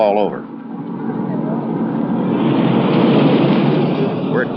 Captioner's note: engine noise